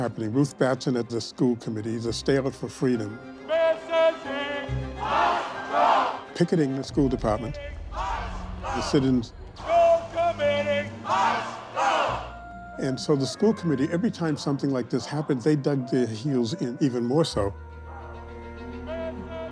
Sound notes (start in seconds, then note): 3.4 chanting